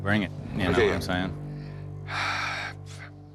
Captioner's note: sighs